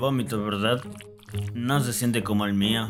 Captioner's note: plop-plop!